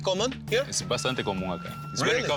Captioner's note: speaking Spanish